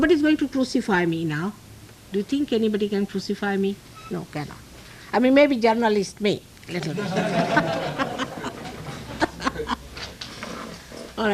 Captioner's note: laugh